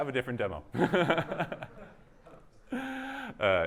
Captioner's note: chuckle